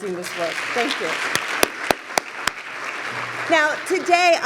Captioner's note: applause